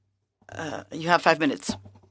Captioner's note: speaking French